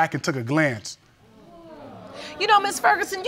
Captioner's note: crowd gasping